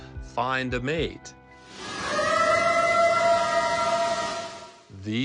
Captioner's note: eerie howl